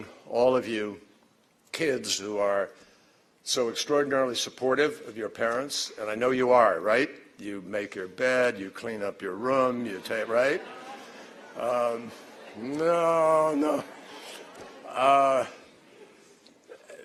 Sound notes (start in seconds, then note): 14.0 laughter